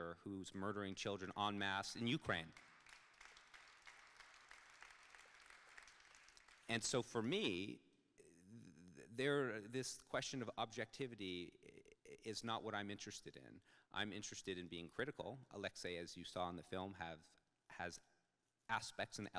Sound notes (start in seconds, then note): 2.3 audience claps